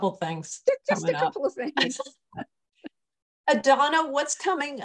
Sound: laughter

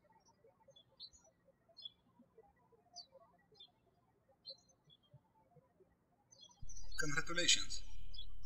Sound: birds chirping

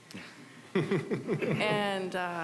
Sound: scattered chuckling

